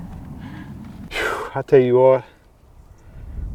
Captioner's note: sighs